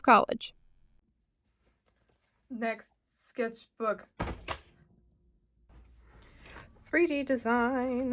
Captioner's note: slam